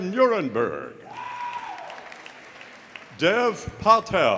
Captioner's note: audience cheering; audience applauding